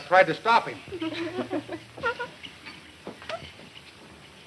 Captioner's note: women giggling